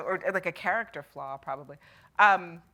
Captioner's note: none